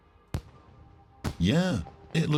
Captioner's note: fireworks banging